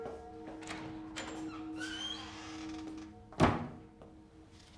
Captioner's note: door clicking